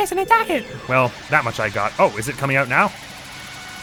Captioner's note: sizzling noise